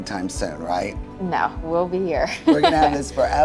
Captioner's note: laughs